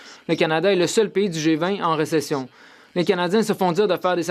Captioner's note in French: voix de l'interprète